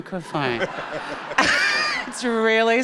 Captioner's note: chuckles; audience laughing